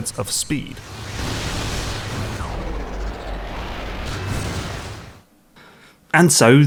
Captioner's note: game audio